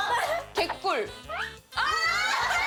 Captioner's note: yayyy